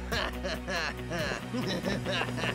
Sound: gasps

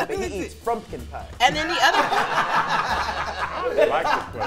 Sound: group laughs

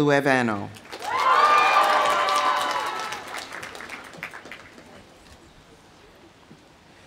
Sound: audience applauding; audience cheering

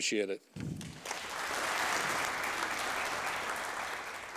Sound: audience applauding

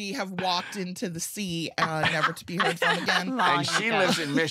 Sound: laughter

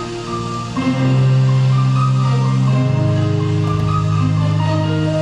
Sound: soft waves

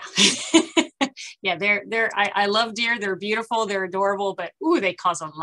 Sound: laughter

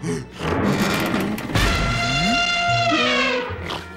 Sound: creaking; elephant trumpeting

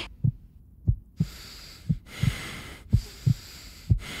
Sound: heart beating

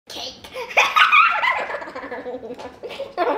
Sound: laughs

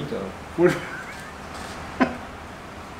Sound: laugh

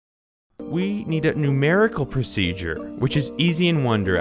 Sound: voiceover

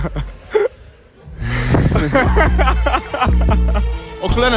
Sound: laughter

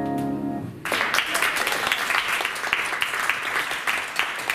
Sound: applause

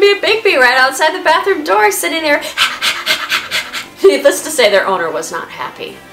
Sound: dog panting noises

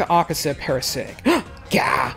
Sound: gasps

